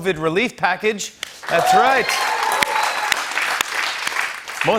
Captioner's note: cheers and applause